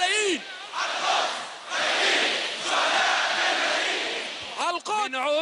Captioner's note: crowd chanting slogan